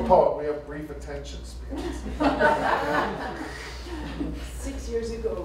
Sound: laughter

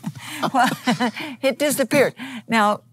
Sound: laughs

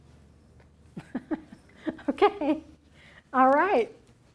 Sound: laughs

